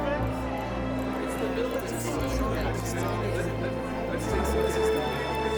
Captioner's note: crowd murmer